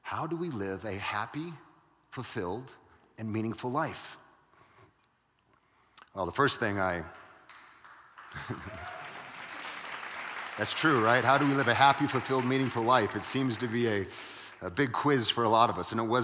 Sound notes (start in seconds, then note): 7.5 audience cheering; 8.3 laughing